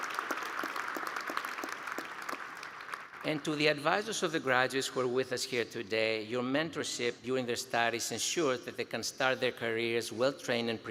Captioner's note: applause